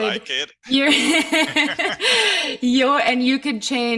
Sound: laughing

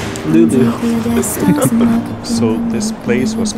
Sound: both laugh

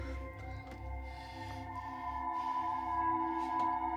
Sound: breathing heavily

